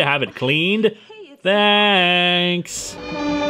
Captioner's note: sing-songy